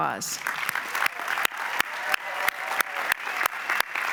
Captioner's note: applause